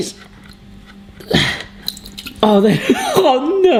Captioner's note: grunts